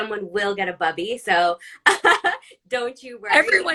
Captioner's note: laughs